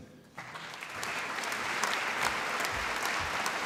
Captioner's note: applause